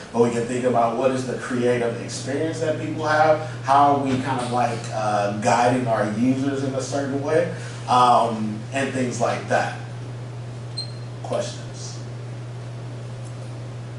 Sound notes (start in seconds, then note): none